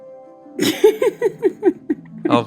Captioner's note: laughs